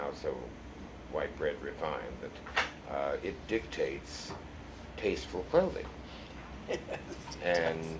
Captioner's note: laughs